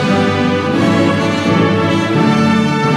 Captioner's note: none